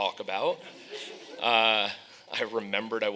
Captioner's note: audience laughing